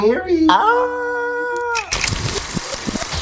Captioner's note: screaming; film projector whirring noises